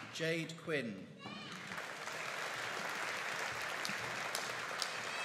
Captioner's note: audience applauding